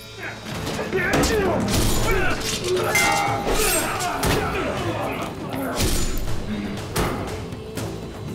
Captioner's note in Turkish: Dövüş sesleri; Kılıç sesleri